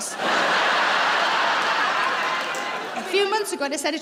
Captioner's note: laughing